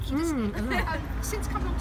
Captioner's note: laughs